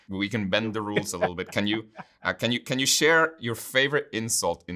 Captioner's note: laughing